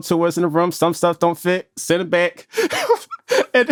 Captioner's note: laughs